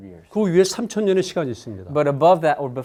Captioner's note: speaking in Korean